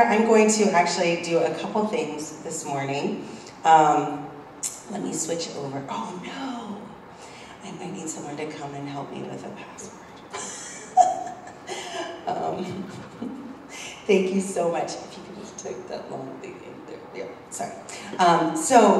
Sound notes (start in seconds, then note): 10.3 laugh